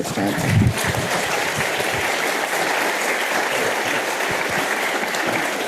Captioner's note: audience applauding